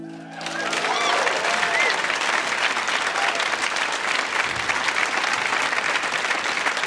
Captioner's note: audience applauds; audience member whistles